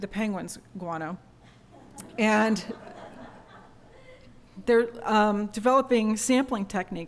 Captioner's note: laughter